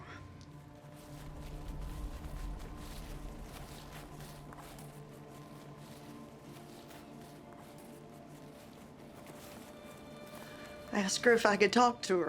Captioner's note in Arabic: فلاش باك، خطوات